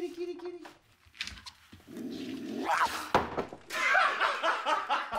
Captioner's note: growls, snarls; laughing